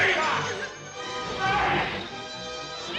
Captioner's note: scream